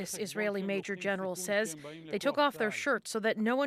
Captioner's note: speaking alternate language